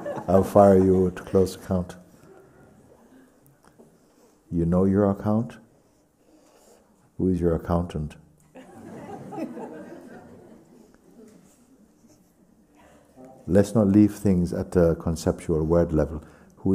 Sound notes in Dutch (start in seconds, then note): 8.5 gelach